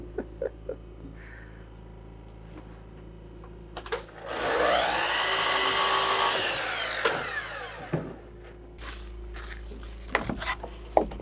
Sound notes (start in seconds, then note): 0.0 chuckling; 3.9 saw buzzing